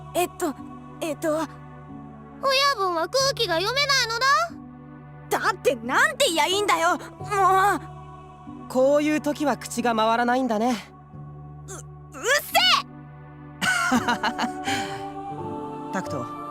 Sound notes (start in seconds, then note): 13.6 laugh